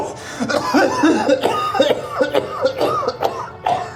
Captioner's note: Miles coughs